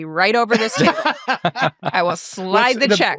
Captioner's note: all laughing